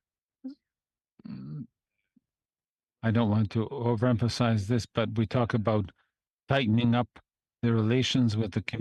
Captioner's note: speaking French